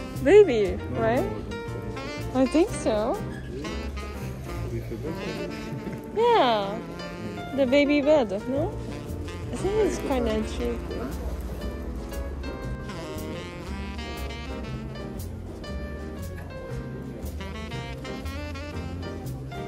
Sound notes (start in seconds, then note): 11.1 laughs